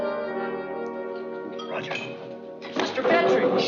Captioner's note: whispers